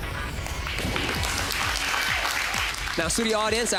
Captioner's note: audience applauds